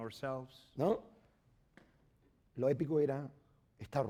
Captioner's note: speaking spanish